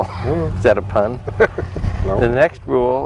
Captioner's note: laughing